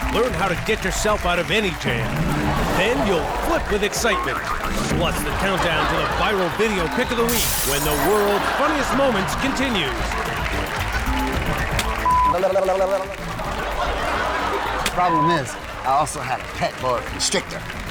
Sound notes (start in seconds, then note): 12.0 beep; 12.3 audience laughs